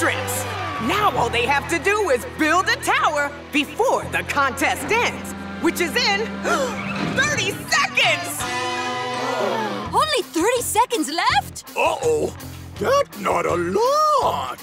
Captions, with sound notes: Now all they have to do is build a tower before the contest ends which is in [gasping] 30 seconds. [gasping] Only 30 seconds left? Uh-oh. That's not a lot.